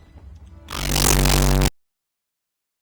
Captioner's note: static